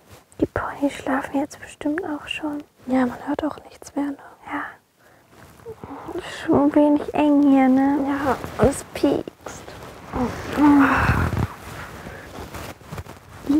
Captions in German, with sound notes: Die Ponys schlafen jetzt bestimmt auch schon. Ja, man hört auch nichts mehr, ne? - Ja. Ist schon ein wenig eng hier, ne? - Ja. Und es piekst. (Seufzen)